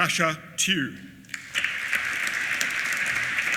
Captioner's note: applause